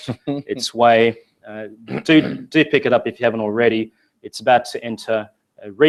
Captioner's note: laugh